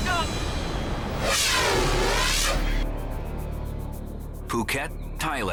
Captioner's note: air whooshes